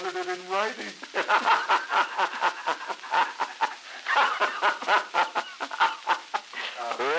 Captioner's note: laughter